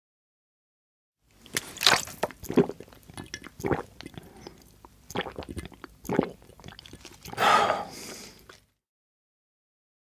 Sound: sound of drinking

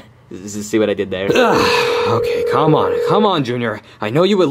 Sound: phone rings

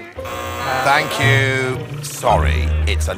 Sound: buzz!

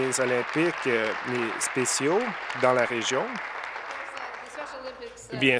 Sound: applause

